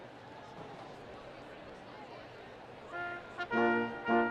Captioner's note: students chattering; orchestral music